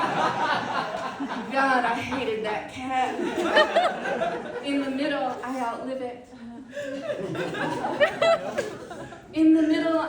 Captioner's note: audience laughter; audience laughter